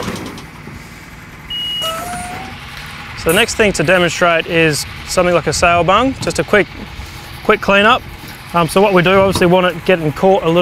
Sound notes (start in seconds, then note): 0.1 loud banging; 1.5 beep